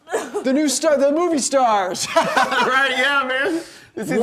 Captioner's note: laughing